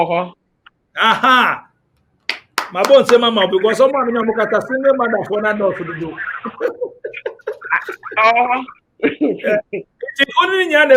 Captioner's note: claps